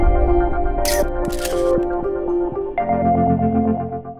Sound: camera clicks

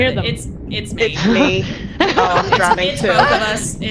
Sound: laugh

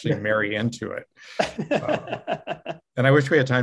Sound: laughing

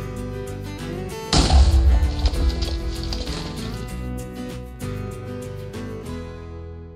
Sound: lively country music; TNT booming

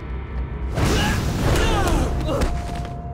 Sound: grunting

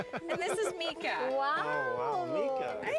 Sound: chuckling

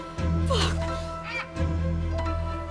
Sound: vulture squawking; panting

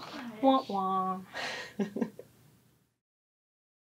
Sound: laughs

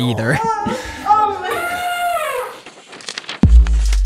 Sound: moaning followed by and elephant blowing

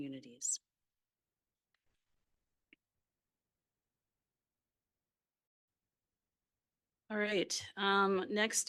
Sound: audio cuts out

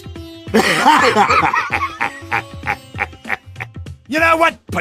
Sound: laughing

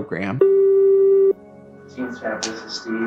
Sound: phone beeps

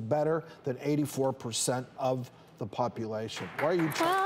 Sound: audience clapping

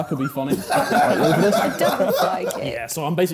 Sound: laughing

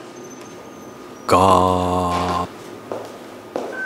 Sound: gates opening

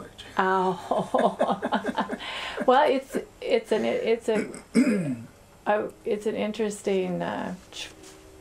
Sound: laughter

